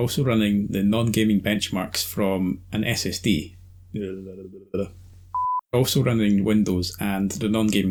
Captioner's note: mouth noises